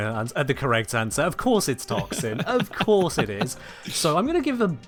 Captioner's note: laughs